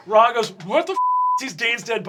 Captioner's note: beeping